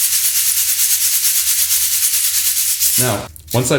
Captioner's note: nuts rattling